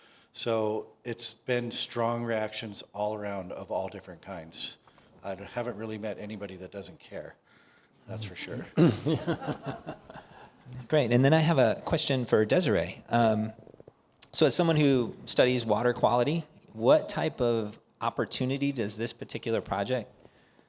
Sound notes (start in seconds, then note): 8.7 laughter